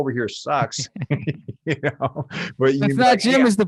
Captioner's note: both laughing